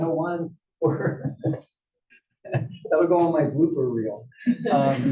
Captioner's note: laugh; laugh